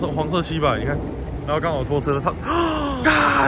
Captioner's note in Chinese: 吸氣